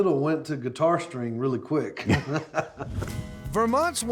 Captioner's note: laughing